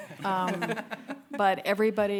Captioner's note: audience laughing